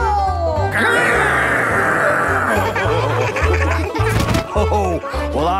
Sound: laughing

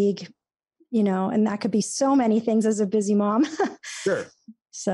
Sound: laughs

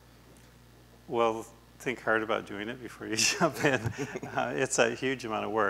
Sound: laughs

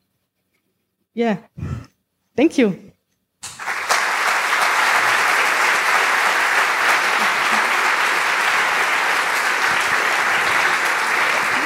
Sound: applause

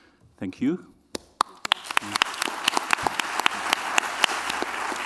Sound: applause

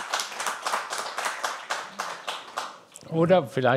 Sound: applause

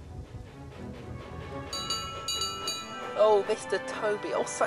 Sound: toby rings bell

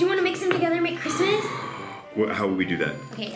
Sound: gasp

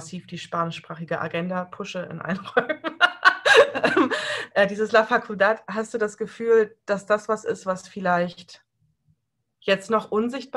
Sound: laughs

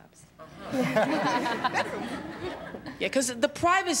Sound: laughter

